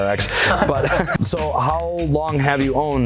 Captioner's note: laughing